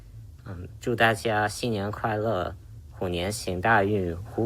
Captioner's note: speaks Chinese